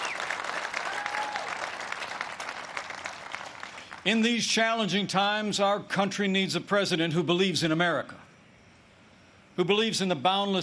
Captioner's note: applause